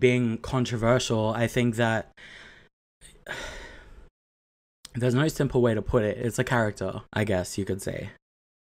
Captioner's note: sighs